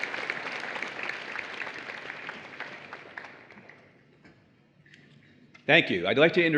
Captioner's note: applause